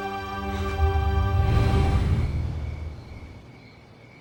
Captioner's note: whoosh noise